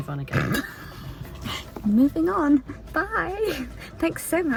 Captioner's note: laughs